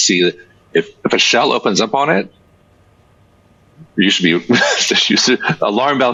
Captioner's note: chuckles